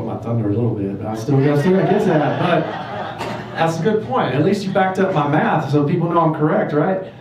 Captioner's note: crowd laughter